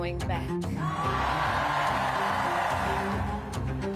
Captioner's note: cheers and applause